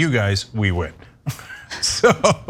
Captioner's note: laugh